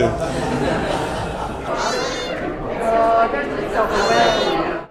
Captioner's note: cat purring